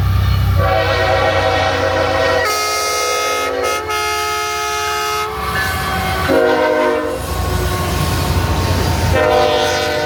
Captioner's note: NS freight blows horn. 1502's horn answers